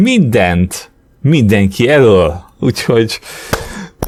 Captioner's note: claps